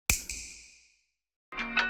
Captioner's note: snap